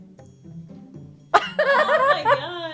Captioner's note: giggling